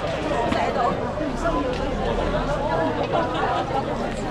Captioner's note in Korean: 북적북적